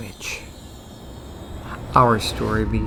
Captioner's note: eerie sound